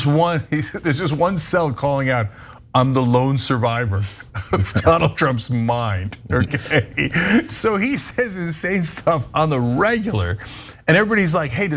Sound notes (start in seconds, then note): 4.4 laugh